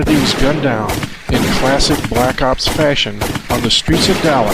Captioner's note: guns fire